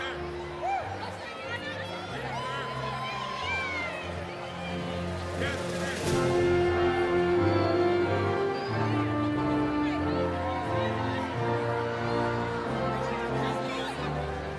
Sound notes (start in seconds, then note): 5.7 cheering continues; 5.7 inspirational music